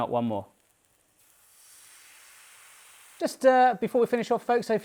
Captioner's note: sizzling